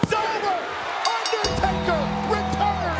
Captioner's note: bell ringing